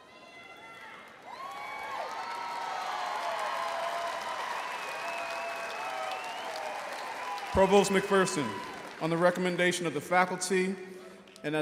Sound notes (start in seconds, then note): 0.6 audience cheering